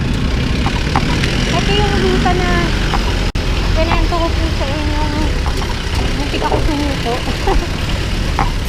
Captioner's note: laughs